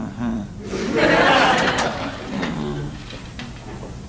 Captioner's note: audience laughs